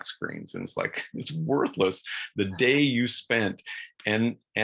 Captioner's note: chuckles